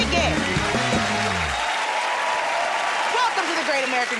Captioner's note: cheers and applause